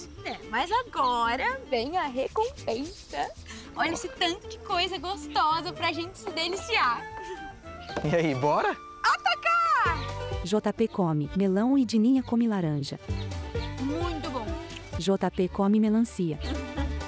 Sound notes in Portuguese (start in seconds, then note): 11.4 Pássaros